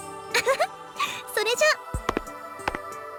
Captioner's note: laugh